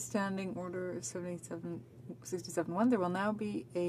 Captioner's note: speaking french